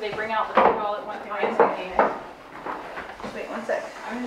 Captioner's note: sound drowned out by banging of plates